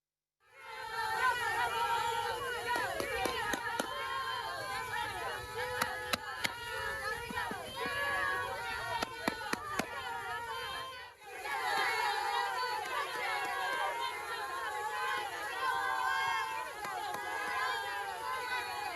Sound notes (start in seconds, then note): 1.4 Duke Cheerleaders cheering